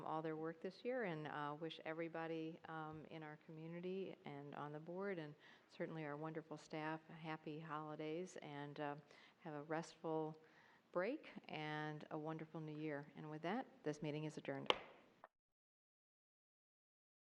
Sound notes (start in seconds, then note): 14.6 gavel